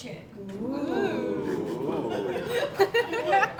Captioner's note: audience Oohing